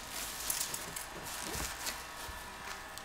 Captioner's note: hair dryer noises